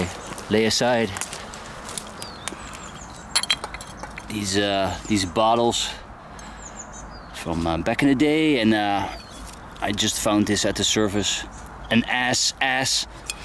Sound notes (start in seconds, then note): 3.3 glass clinking